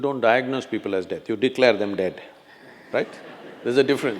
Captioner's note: few laugh